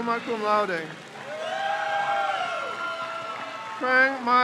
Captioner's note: crowd cheers